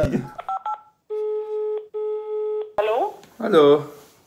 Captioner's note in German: Telefon tutet; Mutter